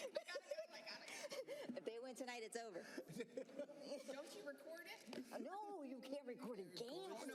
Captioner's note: laughter; laughter